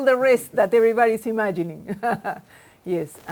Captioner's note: laughs